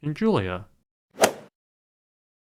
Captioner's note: swoosh